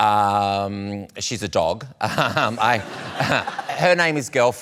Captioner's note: laughter